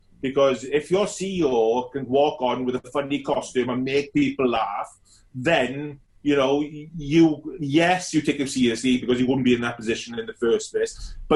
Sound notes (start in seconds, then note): none